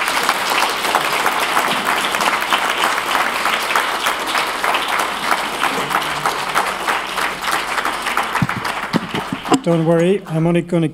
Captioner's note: applause